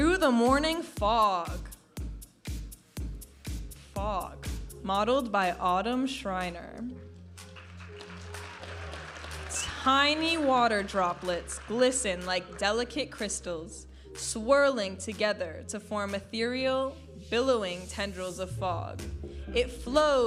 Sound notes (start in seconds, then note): 2.3 vibrant music; 7.4 audience applauding and cheering